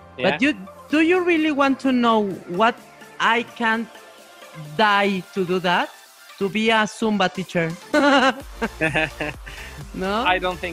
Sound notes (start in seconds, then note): 7.9 laughs